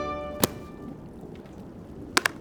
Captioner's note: slam